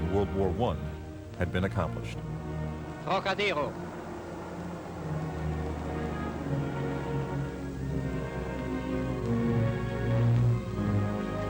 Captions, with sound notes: in World War I had been accomplished. (speaking foreign language) (dramatic music)